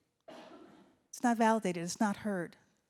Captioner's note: audience member coughs